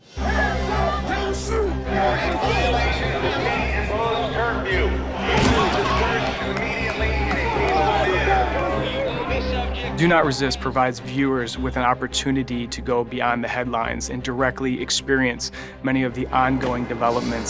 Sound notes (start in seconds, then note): 5.2 loud bang